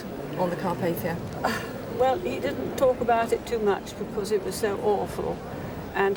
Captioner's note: sighs